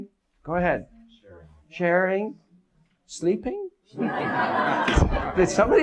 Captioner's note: audience laughs